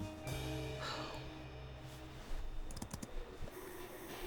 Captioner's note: Rachel sighs